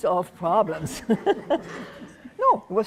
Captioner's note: laughter